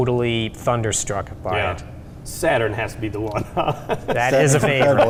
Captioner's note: laughing